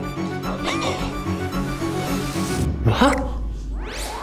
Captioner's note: gasp...!